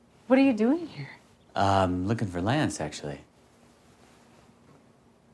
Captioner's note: none